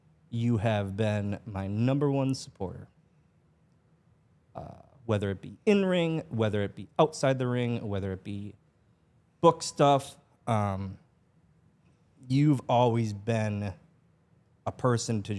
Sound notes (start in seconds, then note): none